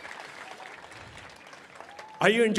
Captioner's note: cheering and applause